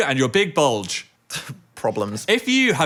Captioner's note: scoffs